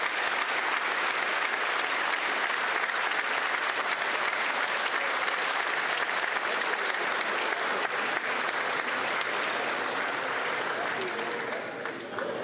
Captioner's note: applause